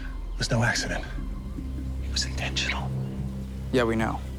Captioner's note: whispers